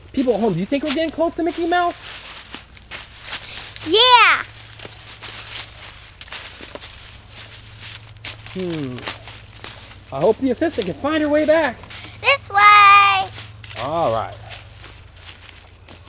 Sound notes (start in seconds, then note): 10.4 voiceover; 14.1 voiceover